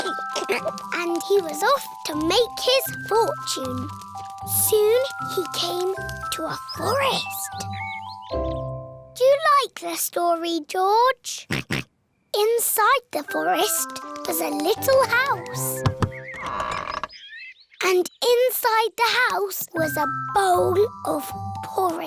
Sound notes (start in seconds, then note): 11.5 oinks; 15.5 door creaks